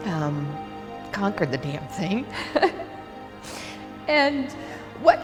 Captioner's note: chuckles